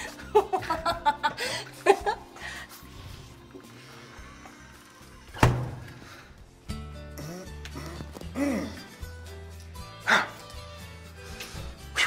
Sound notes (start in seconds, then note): 5.4 door closes; 6.5 upbeat music